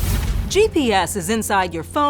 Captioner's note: bright music; swooshing